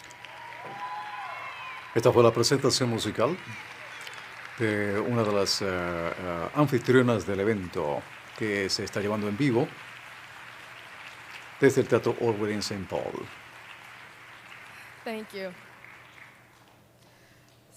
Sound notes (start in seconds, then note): 8.2 cheers and applause